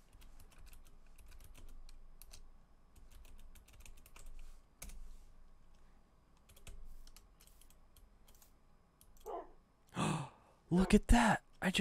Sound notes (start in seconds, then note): 9.9 gasps